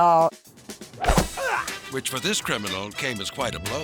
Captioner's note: bottle thudding; clerk grunting